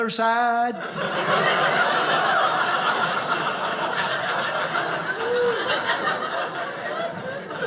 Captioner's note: audience laughing